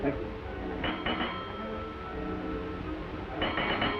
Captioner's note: bells ring